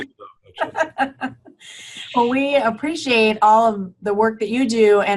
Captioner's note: laughing